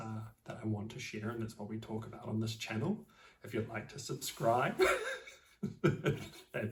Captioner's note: laughs